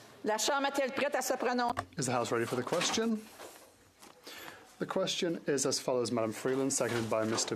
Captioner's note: speaking French